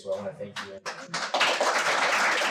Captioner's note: audience applause